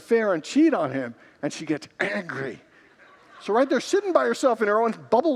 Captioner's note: congregants laugh